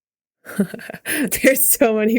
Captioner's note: Mikaela laughing